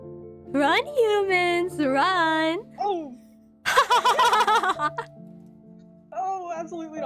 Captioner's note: laughs